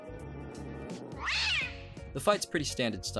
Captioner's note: cat screech